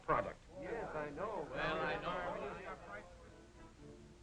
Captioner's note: murmurs of agreement